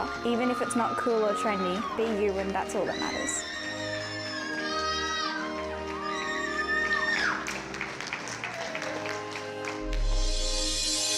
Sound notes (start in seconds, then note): 2.9 everyone cheering; 3.4 triumphant music